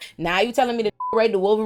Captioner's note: beep